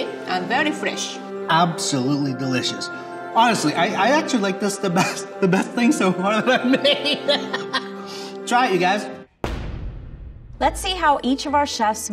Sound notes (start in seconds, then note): 6.1 laughing